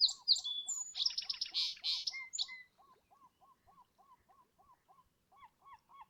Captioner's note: seagull and sparrow calls